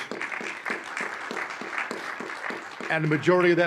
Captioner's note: audience applauding